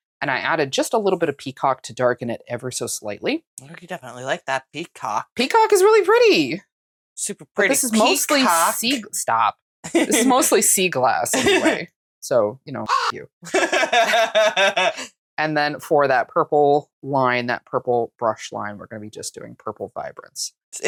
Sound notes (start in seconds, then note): 12.8 caw